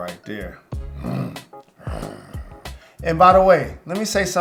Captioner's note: growling